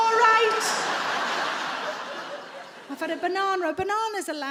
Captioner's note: audience laughing